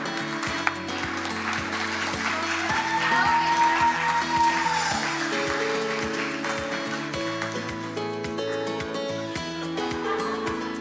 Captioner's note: cheering and applause